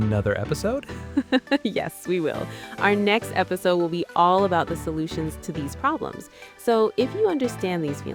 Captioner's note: laughs